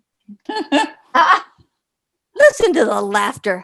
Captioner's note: laughs